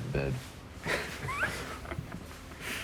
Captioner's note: laughing